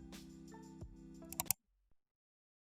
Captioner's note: click